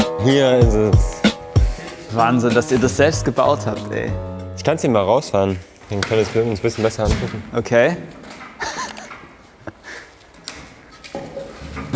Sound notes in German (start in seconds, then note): 8.5 Lachen